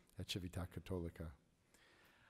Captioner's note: speaking in foreign language